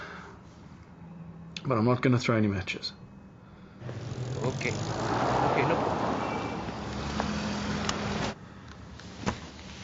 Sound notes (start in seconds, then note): 5.9 engines rumble